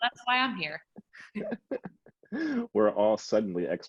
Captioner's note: laughs